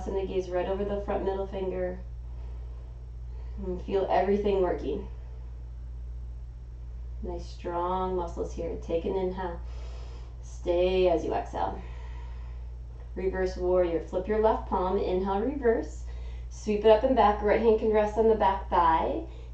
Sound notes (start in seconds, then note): 9.6 inhaling; 11.8 exhaling